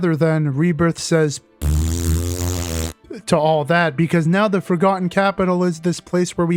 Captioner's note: blows raspberry